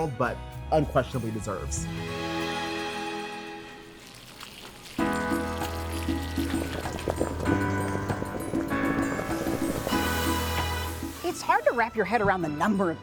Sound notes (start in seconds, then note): 4.4 food sizzling; 4.8 feel good music